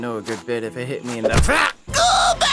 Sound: stone thudding

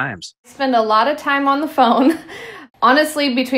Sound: chuckling

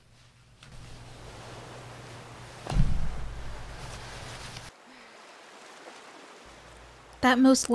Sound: the sound of wave crashing on the shoreline

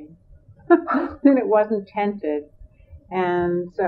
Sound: laughs

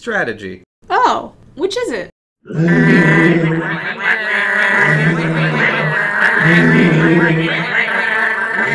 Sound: penguin sounds

